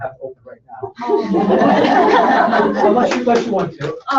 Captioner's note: laughter